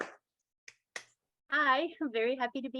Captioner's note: audience claps